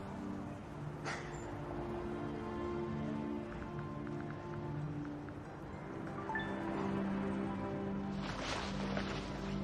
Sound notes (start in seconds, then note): 4.8 phonene chimes